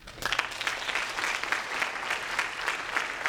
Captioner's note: applause